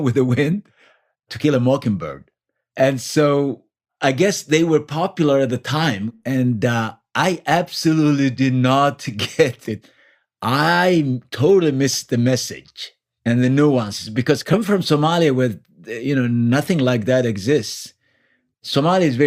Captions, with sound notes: With the Wind. To Kill a Mockingbird. And so I guess they were popular at the time. And, uh, I absolutely did not get it. [Laughs.] I totally missed the message and the nuances, because—coming from Somalia with, you know, nothing like that exists. Somalia is very